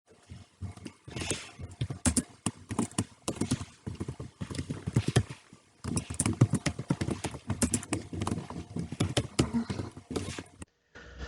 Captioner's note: tapping of the keyboard